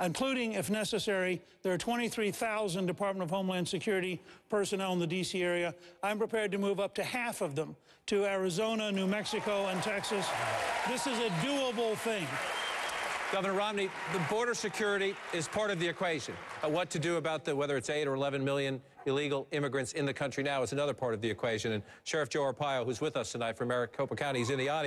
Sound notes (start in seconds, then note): 12.6 applause